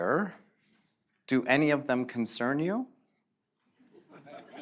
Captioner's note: laughter